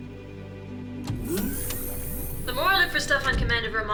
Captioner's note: machine whirring